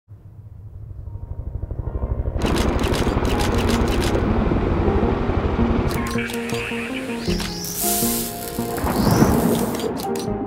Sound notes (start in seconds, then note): 1.6 helicopters whirring; 2.4 camera shutter snapping; 6.3 gentle music